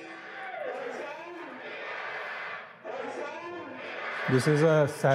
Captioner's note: speaking in foreign language